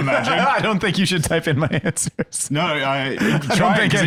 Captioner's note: laughing